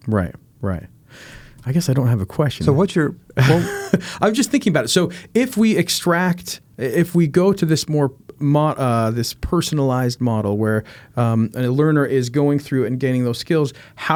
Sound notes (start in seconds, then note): 3.3 laughing